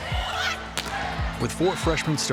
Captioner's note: team talking